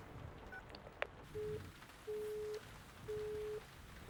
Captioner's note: dial tone